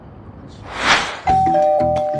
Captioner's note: ding-dong